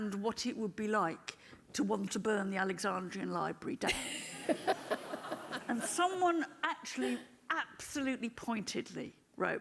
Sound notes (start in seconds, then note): 4.2 audience laughing